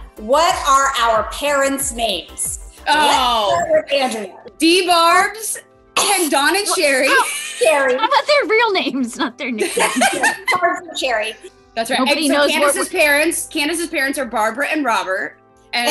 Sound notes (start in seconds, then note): 10.0 laughing